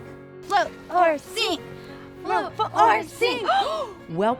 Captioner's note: gasps